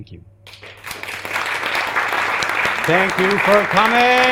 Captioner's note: audience applauding